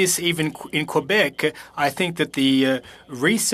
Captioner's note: speaking French